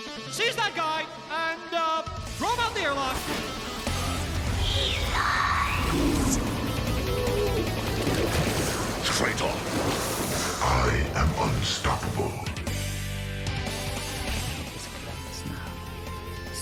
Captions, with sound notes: Seize that guy, and, uh, throw him out the airlock! *sinister female voice* "HE LIES!!!" Traitor! "EYE AM UNSTOPPABLE." "It is close now.